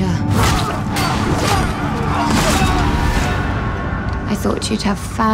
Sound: sword slashing; men exclaiming

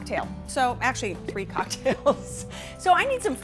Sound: laughing

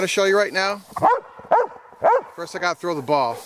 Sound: dogs bark

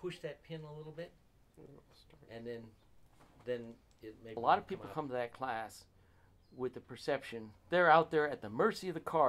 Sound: people talking

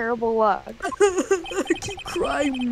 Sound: obnoxious fake crying continues

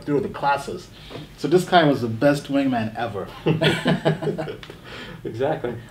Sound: laughing

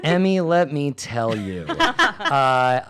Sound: laugh

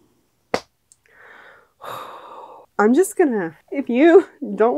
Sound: slap!

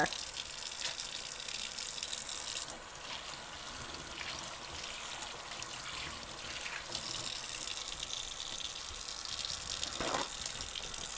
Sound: sound of running water

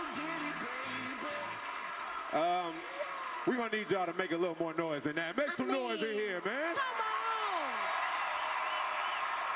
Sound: cheers & applause

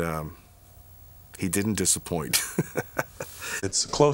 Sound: laughs

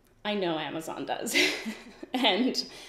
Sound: giggles

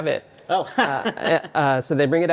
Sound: laughing

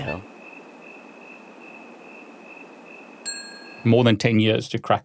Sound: cricket chirping

